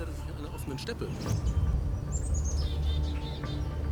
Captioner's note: intense music; birds chirping